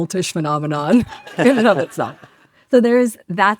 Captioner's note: audience laughs